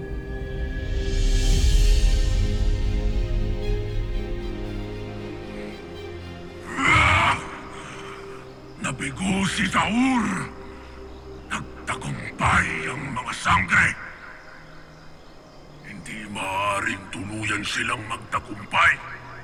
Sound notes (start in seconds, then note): 0.3 melodramatic music playing; 6.7 screams